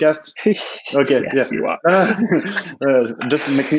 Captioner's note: laughs